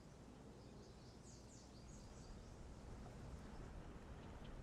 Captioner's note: birds chirping